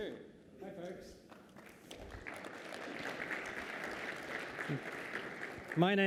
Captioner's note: applause